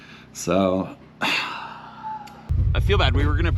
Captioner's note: sighs